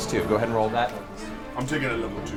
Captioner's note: whispers